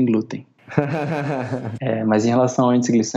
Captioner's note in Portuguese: Risos